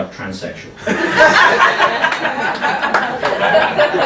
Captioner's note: laughing